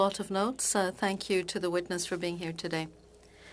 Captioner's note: speaking French